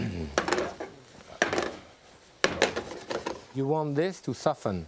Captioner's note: pan clattering